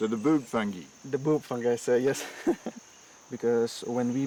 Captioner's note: chuckling